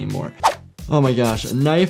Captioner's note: knife slashes